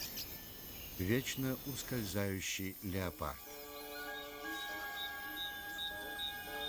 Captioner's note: chirping